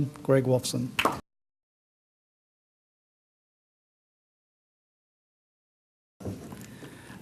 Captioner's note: silence